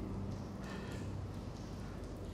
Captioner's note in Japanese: 短く息を吸う音